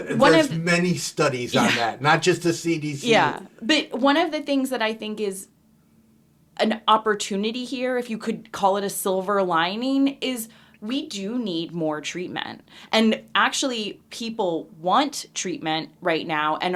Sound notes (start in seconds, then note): 1.2 laughing